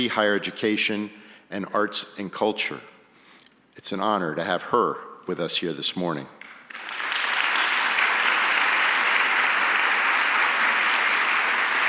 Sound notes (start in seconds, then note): 6.4 audience applauds